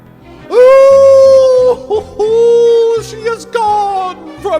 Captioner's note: wailing